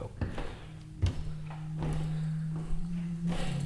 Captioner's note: footsteps clomping; eerie music